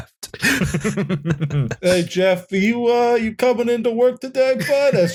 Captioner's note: laughter